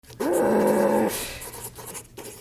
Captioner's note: frustrated noises